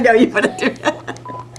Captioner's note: laughter